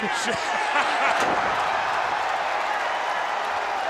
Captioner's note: laugh; applause